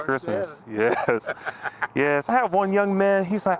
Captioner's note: Henry laughs